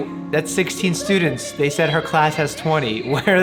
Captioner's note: kids talking